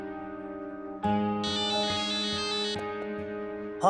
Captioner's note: phone ringing